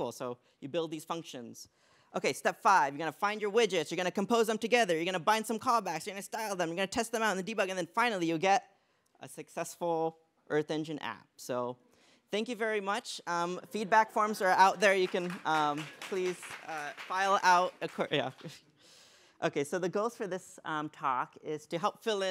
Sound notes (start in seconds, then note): 13.1 laughter; 18.4 laughs